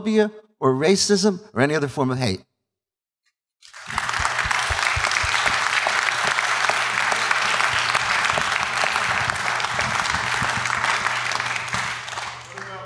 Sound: applause

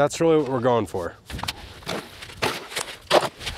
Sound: shovel scraping; shovel rattling

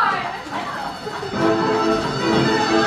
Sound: bells chiming; energetic music

